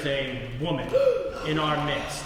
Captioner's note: gasps